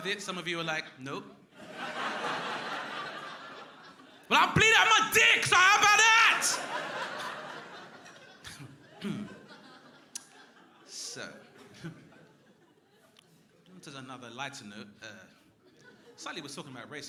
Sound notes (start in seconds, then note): 2.2 crowd laughing; 6.6 crowd laughing